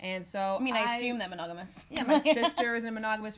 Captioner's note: laughs